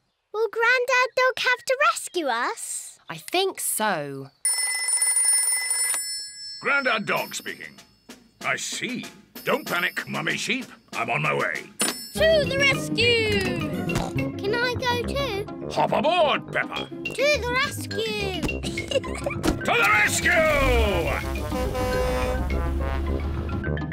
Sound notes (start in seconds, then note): 4.8 rings; 13.8 snorts; 21.0 horn blares